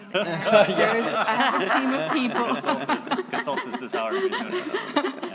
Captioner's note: laughing